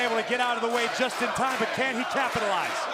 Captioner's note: crowd cheering